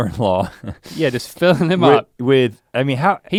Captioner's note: chuckles